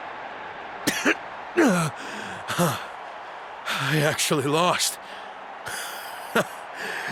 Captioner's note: cough